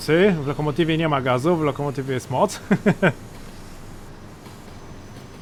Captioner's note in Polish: śmiech